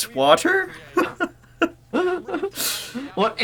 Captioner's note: both laugh in obscure Apple set pieces